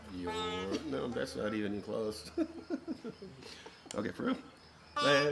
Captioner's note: laughs